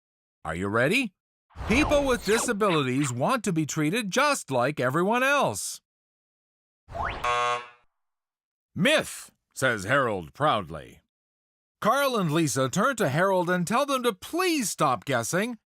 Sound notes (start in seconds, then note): 7.2 buzzer